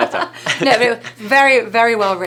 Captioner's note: laughing